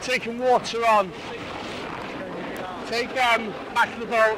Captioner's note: water drowns out speaker